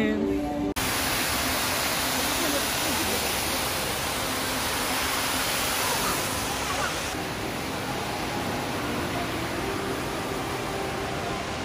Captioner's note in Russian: Шум воды